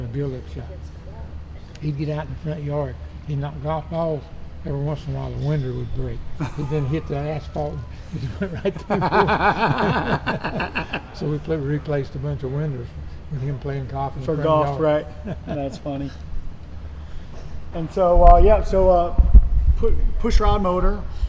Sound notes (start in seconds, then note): 8.9 men laughing